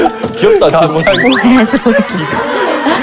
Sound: the duo burst out laughing

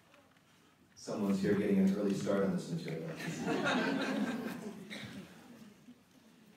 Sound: audience laughter

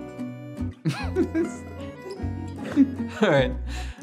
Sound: laughing

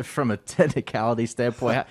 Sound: and reporter chuckling

